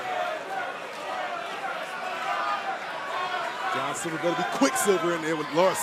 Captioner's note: crowd chatter